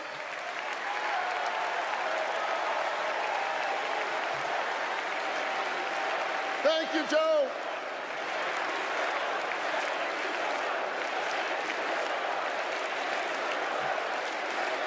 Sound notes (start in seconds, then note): 4.1 applause